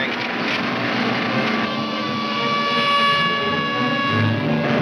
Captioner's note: siren wailing